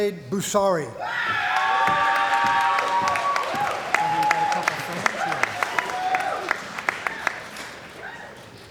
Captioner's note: cheering & Applause